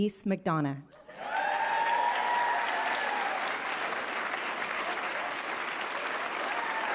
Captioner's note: audience cheering and applauding